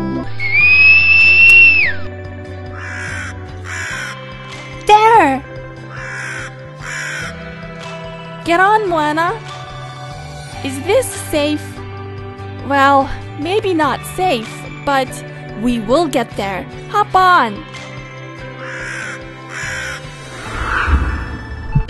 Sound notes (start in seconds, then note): 0.2 whistle; 3.6 croaking; 6.8 croaking; 18.6 croaking